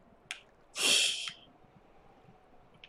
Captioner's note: laughs softly